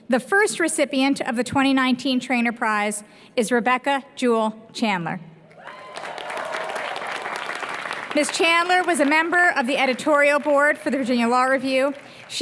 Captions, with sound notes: The first recipient of the 2019 Traynor Prize is Rebecca Jewel Chandler. [APPLAUSE] Miss Chandler was a member of the editorial board for the Virginia Law Review.